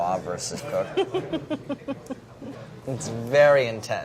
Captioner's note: laughs